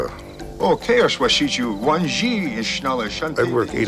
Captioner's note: speaking Lakota